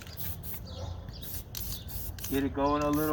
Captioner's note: spray whistling